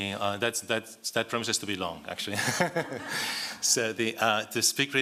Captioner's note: laugh